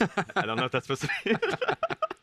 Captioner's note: both laugh